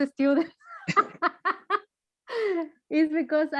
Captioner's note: chuckles